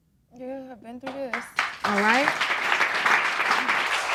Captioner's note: audience applauding